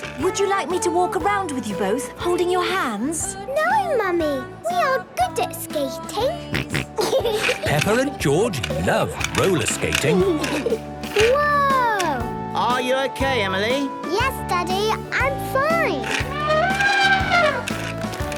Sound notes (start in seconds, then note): 6.5 snorting and giggling; 10.2 laughter; 15.9 trumpeting